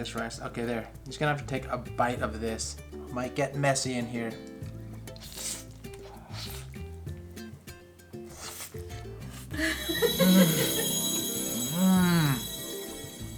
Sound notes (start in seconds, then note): 5.0 slurping sounds